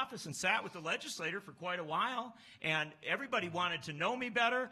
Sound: none

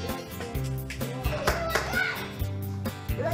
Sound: yelling

